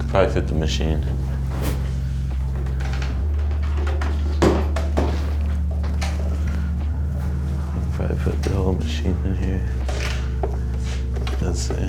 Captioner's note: laughs